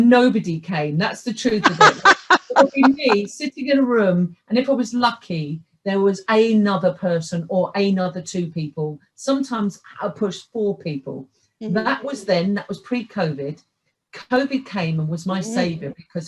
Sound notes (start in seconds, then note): 0.0 laughs